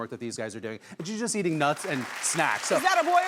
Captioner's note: audience clapping